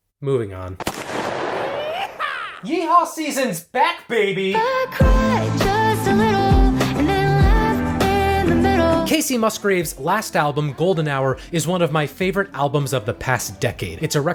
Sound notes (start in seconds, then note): 0.8 gunshot fires